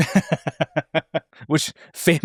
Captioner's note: laughs